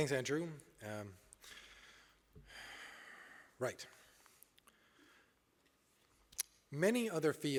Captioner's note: sighs